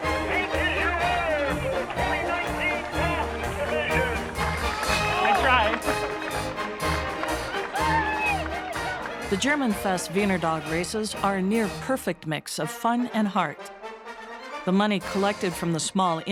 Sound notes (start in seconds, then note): 4.0 crowd cheering; 6.6 crowd cheering; 6.6 marching band music